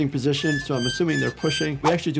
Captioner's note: graphics creaking; graphics swishing